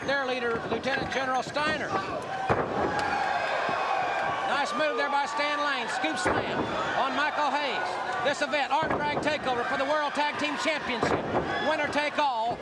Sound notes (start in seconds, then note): 0.1 crowd chatter; 5.8 crowd chattering